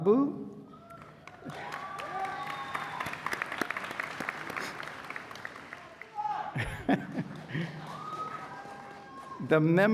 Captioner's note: applause